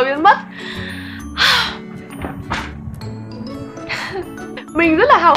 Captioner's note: exhales